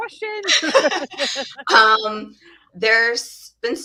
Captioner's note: both laughing